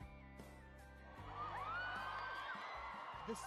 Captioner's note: crowd cheering; voiceover